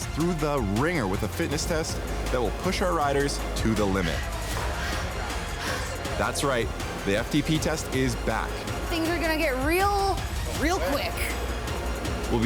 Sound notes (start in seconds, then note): 4.1 wheezes